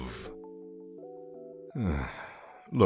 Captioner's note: sigh